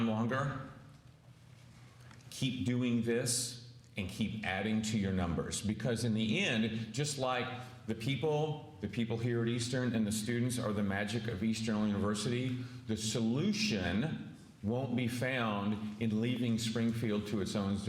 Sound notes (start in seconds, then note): none